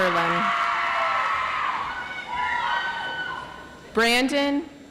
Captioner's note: audience applauds